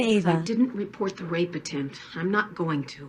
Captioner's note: on TV